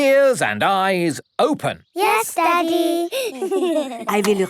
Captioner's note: giggling